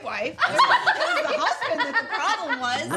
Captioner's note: laughter